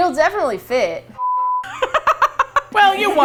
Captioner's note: laughs